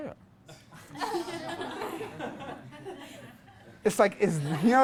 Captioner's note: class laughs